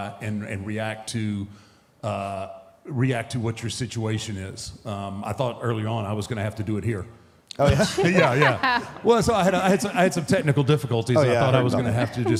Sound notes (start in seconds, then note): 7.6 group laughs